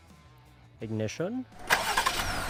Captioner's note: engine starts; ignition